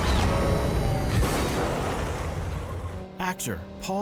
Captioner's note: crash